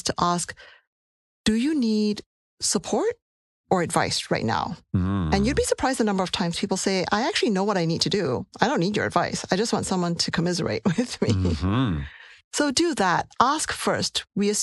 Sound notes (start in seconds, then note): 11.1 laugh